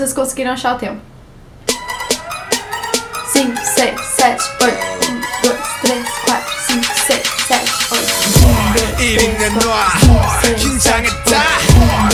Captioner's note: counting